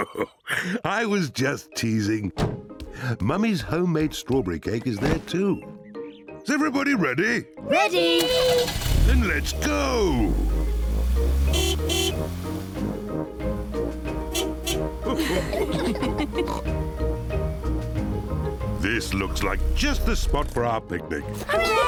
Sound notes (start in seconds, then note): 0.0 chuckles; 11.7 toots horn; 15.0 all laugh